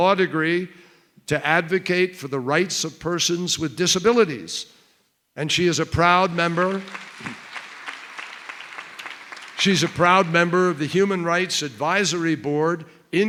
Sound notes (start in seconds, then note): 6.2 applause